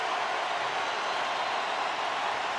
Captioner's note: crowd cheering